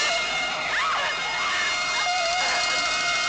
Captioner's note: screaming